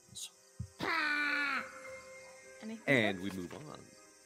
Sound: goblin screaming

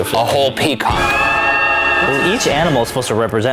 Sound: peacock screams and choir ahs

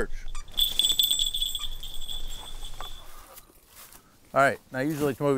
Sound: bell rings; device beeps

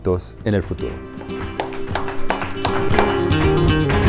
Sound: clapping

